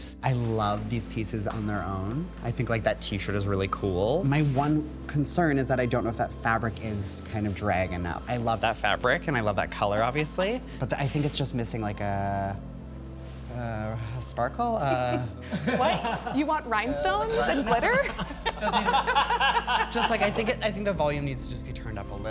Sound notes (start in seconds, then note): 14.9 chuckling; 17.2 all chuckling